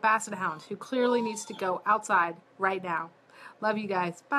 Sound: dog whining in the background

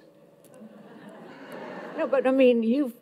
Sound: audience laughs

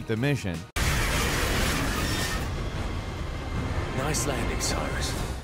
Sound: plane screeching

